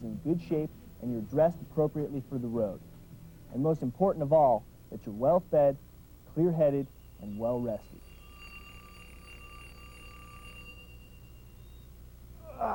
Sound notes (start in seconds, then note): 8.2 alarm rings